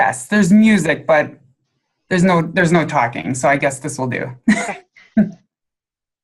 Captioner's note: laughs